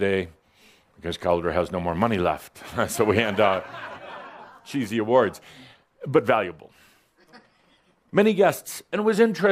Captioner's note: some chuckles